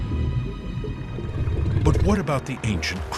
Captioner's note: growling